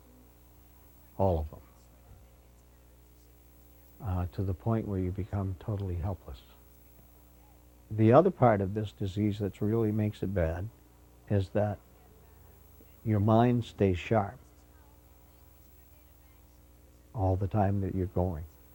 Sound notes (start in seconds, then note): none